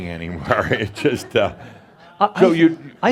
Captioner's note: Adamus chuckles